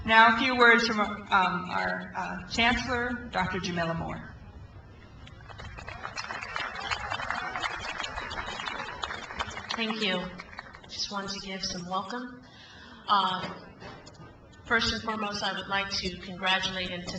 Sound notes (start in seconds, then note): 5.3 crowd applauds